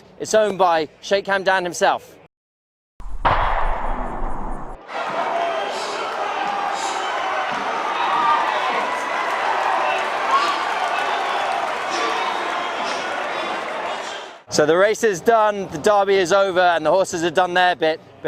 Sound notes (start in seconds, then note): 4.8 crowds cheer; 8.1 cheering and indistinct commentary